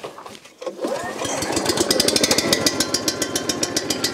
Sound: engine starts

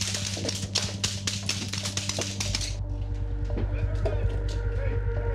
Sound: gunfire

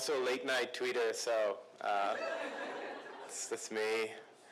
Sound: laughs

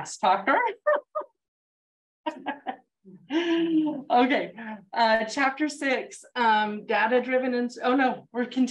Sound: laughs

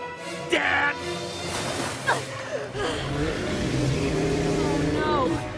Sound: gasping and spluttering

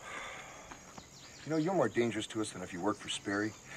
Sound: Dash sighs

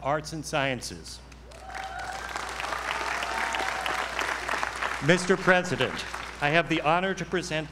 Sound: applause

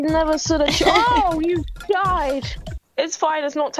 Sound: laughs

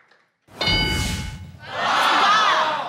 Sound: ding

